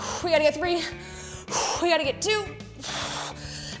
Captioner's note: exhales